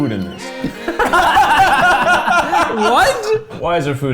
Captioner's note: laughing